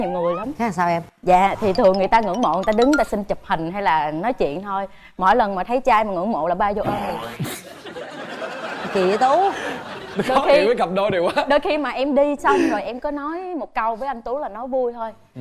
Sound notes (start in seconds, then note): 7.3 laughing